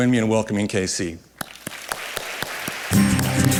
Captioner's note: applause